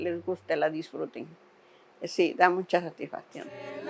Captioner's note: speaking Spanish